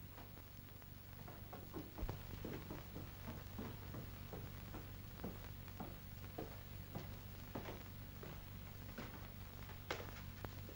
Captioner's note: footsteps down stairs